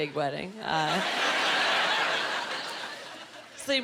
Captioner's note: laughing